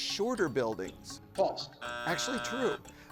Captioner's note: buzzer drones